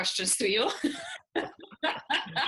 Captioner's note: both laughing